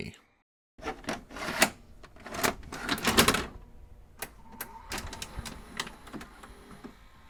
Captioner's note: VCR being loaded